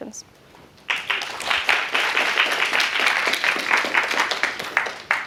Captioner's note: applause